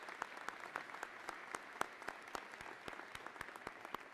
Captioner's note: applause